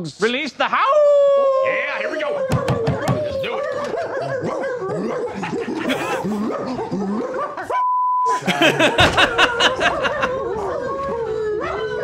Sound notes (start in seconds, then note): 4.4 howling and barking; 8.5 coaches continue barking and howling